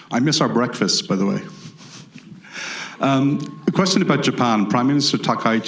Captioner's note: laughs